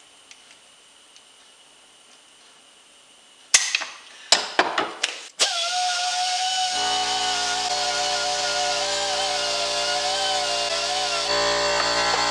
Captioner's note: grinder makes noise